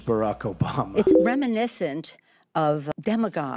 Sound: Nancy Pelosi speaking

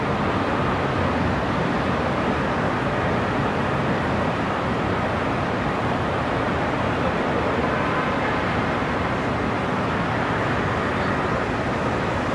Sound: city sounds and distant cars

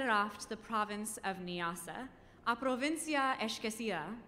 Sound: speaking in foreign language

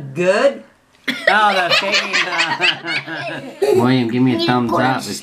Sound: laughing

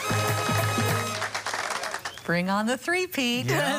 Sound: cheering

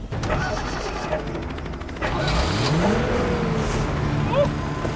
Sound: engine starting

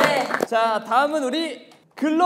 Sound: applause

